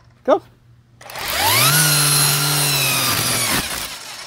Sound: string trimmer starts then stops

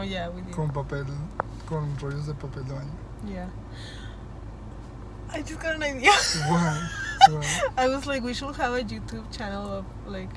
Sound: gasp

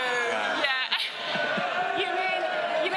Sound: audience boos

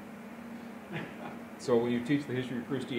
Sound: laughter

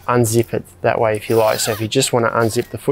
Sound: zip rasping

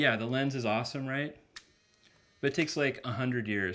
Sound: clicking

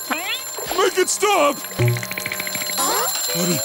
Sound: ringing

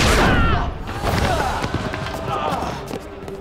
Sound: grunting

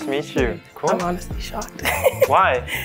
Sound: laughs

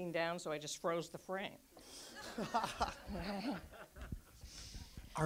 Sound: audience laughs

